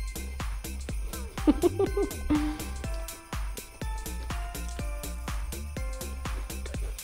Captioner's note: festive music continues; chuckles